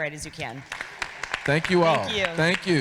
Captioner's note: audience laughing